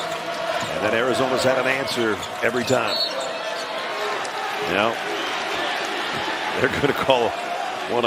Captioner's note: whistle